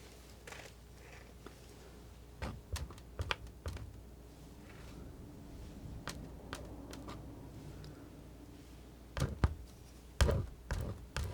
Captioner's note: scratching